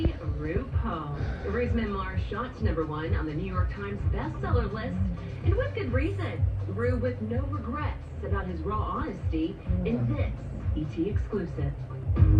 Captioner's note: TV continues playing